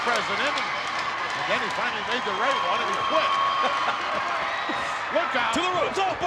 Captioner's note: laughs